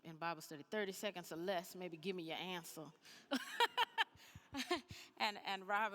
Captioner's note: laughs